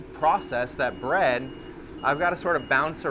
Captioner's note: machinery beeping